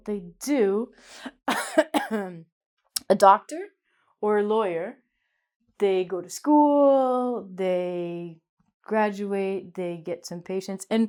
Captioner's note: coughs